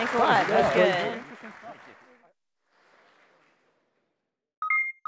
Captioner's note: applause